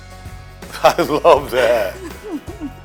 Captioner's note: laughing